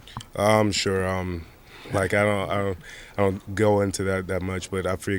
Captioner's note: laughing